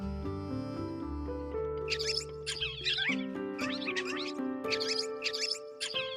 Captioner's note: squeak; squeak squeak